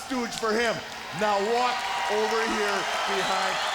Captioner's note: crowd cheers